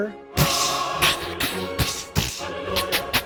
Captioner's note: hissing